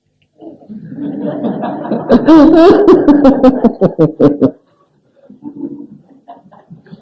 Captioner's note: laughs